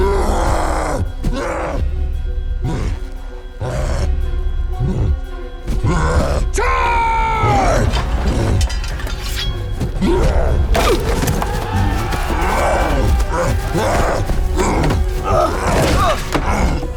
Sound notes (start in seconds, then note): 1.2 suspenseful music playing; 11.6 shouting; 12.2 cyclops roaring